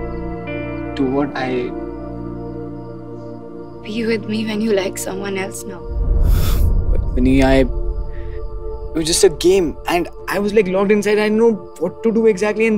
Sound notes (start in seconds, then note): 6.2 Sighs